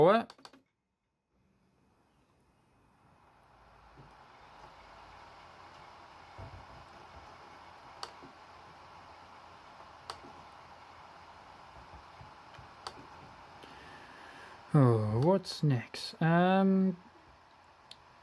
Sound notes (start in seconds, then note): 2.8 laptop dvd drive spinning